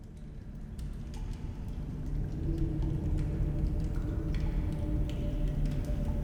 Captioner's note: water dripping; suspenseful music